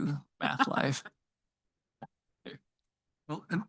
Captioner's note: laughing